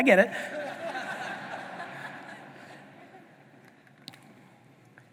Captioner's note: audience laughing